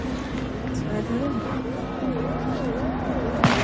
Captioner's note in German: </i> Schüsse